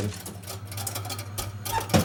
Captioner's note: rattling